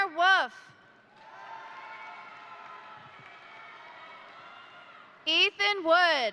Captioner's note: crowd cheering; crowd applauding